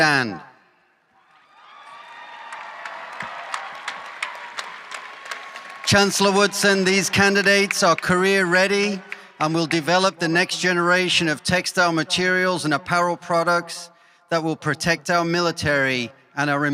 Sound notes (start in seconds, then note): 6.7 cheering and applause